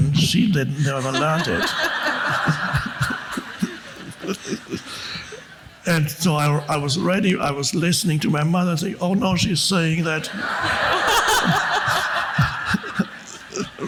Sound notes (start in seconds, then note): 0.8 woman laughs; 2.1 audience laughs; 9.8 audience laughs